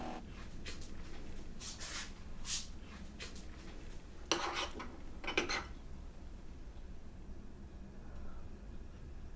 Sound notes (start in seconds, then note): 4.3 spoon clattering